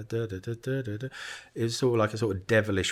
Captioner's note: hums